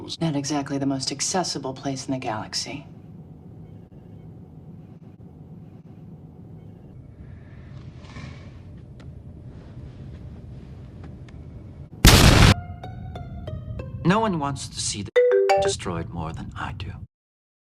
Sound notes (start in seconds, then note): 12.0 explosion; 15.1 marimba ringtone